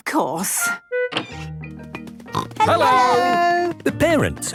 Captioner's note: snorting